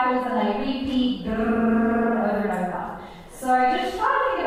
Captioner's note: hums